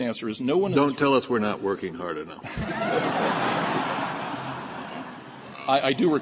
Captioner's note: laughter